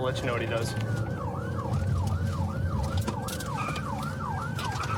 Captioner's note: siren wailing